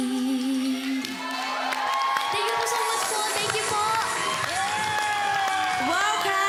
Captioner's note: crowd cheers, applauds